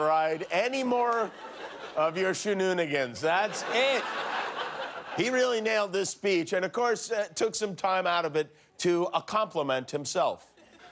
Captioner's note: laughter